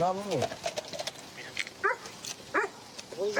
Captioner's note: dog barks